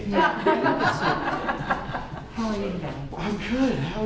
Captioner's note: laughing